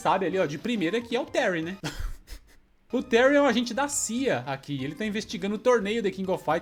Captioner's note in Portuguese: risadas